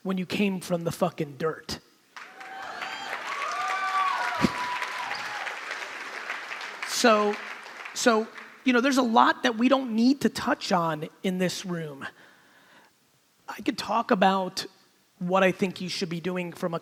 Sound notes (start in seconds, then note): 2.1 crowd clapping; 2.2 crowd cheering